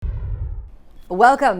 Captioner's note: whooshing